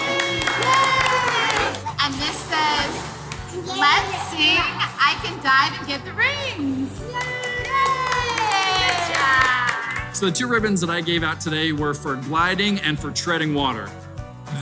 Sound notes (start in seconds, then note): 0.0 clapping; 7.0 clapping